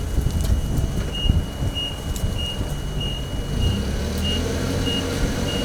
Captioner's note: fork truck beeping